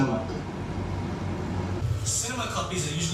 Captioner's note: echoing sound quality